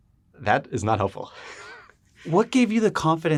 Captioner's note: laughs